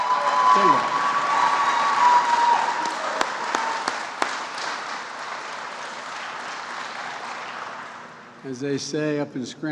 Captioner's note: applause